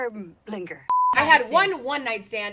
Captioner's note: beep